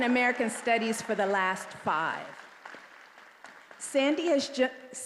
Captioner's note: attendees applauding